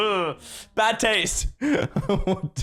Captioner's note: giggles awkwardly